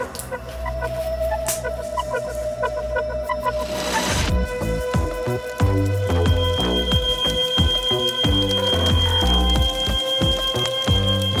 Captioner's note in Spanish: Suena la alarma